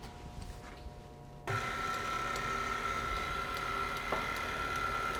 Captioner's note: whirring